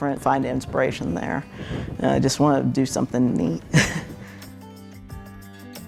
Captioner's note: laughing; gentle acoustic music